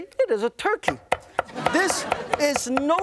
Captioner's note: laughter